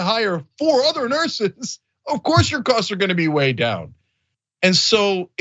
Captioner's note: laugh